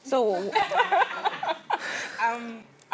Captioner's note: laughter